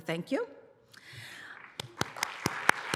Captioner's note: applause